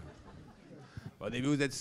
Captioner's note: laughs